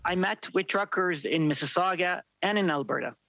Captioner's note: speaking French